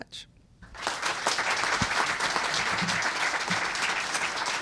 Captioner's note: applause